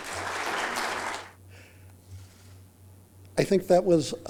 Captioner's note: applause